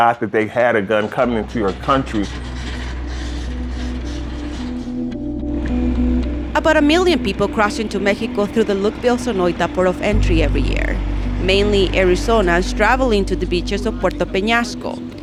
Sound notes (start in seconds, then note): 6.4 voiceover